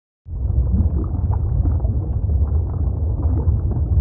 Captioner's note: bubbles bubbling